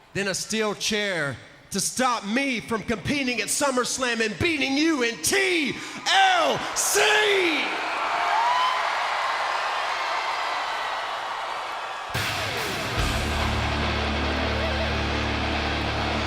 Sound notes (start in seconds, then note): 7.9 crowd cheers; 12.1 electric guitar music plays